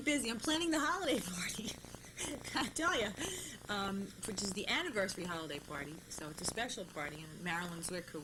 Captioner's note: laughs